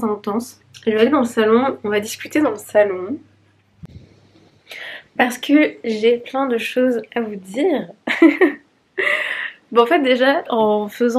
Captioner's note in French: rires